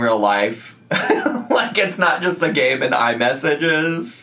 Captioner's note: laughs